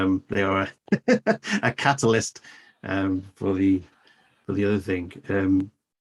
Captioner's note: laughs